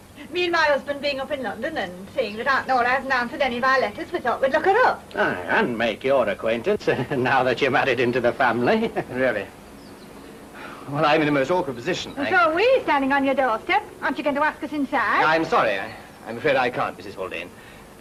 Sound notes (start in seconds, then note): 10.5 sigh